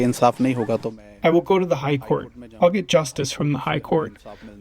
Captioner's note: through translator